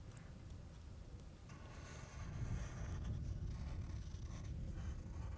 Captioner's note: pencil scratching